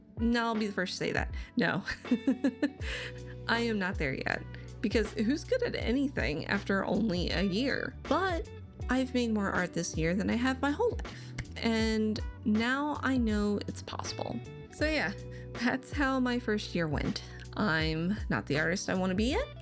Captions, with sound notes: No, I'll be the first to say that. No. (laughs) I am not there yet. Because who's good at anything after only a year? But I've made more art this year than I have my whole life. And now I know it's possible. So yeah, that's how my first year went. I'm not the artist I wanna be yet.